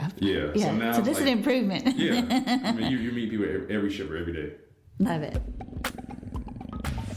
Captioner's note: laughter